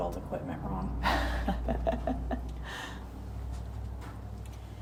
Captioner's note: chuckling